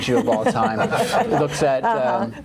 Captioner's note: crowd laughing